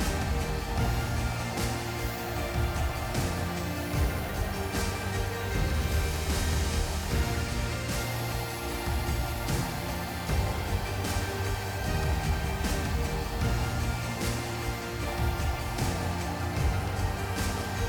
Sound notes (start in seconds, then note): 2.7 blower whooshing; 2.7 gentle upbeat music; 12.7 blower whooshing; 12.7 gentle upbeat music